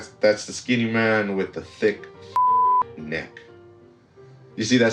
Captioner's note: beep